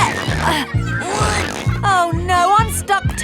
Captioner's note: grunting